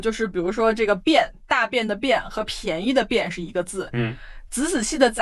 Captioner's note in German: vorsichtig